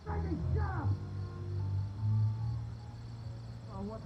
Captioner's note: actor shouts